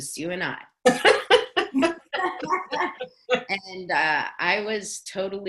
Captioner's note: laughing